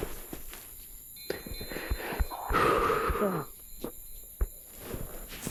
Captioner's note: chimes ringing